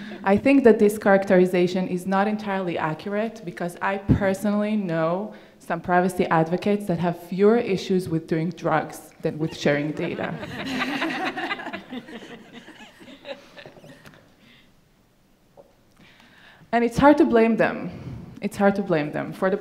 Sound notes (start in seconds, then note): 0.0 audience laughing; 9.5 audience laughing